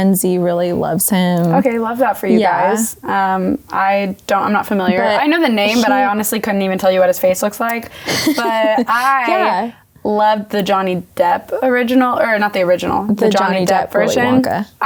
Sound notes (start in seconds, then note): 8.0 laughing